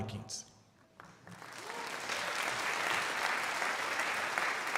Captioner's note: crowd applauding